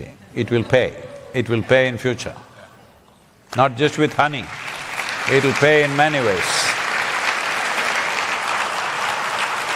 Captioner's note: applause